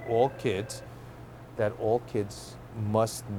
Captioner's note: phone rings